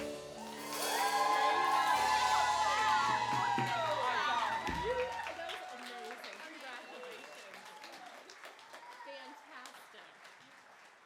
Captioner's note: applause